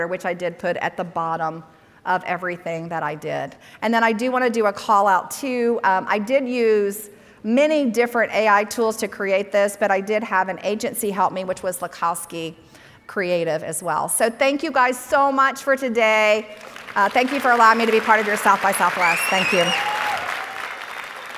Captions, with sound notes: which I did put at the bottom of everything that I did. And then I do want to do a call out too. I did use many different AI tools to create this, but I did have an agency help me, which was Lukowski Creative as well. So thank you guys so much for today. Thank you for allowing me to be part of your South by Southwest. (audience applauding) Thank you.